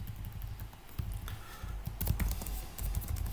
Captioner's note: typing noise